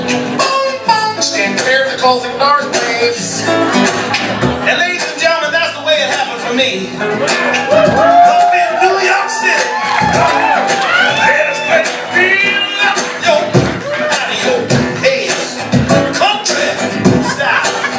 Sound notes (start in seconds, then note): 8.4 cheers